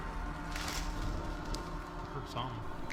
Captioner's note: crackling sound; dramatic music